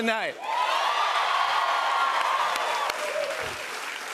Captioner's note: cheers and applause